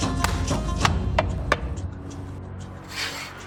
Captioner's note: bowls hitting table; bowls scraping table